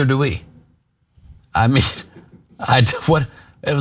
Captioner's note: laugh